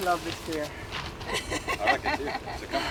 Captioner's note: laughing loudly